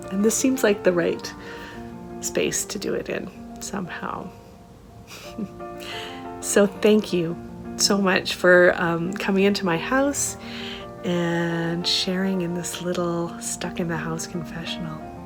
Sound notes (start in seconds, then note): 5.0 laughter